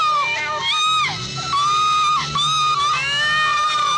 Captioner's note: Twyla screams